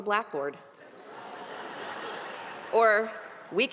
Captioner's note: audience laughing